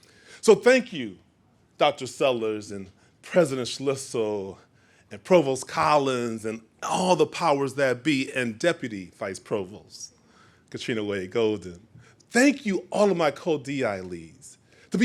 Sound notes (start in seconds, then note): none